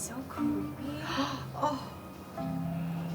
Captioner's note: gasps